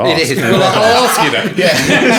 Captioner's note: laughing